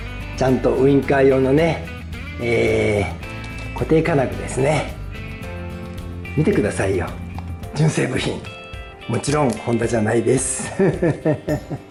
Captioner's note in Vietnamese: cười lớn